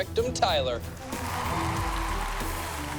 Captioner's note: cheering